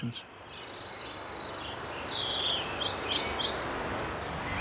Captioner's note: birds chirping